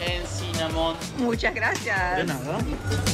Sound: in Spanish

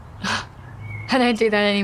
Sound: Tabby scoffs

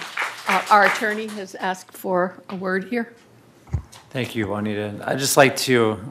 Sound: applause

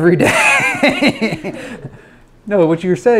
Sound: laughs loudly

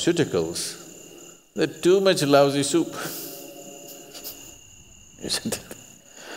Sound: laughs

